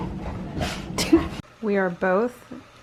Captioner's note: laughs